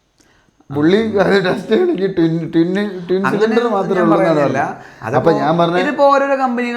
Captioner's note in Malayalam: തൊണ്ട ശരിയാക്കുന്നു